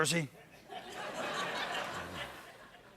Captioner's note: laughter